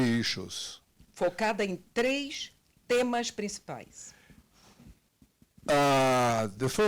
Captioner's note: translator speaking Portuguese